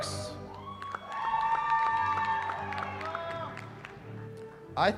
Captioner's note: cheering